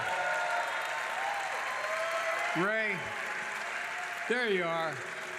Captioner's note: applause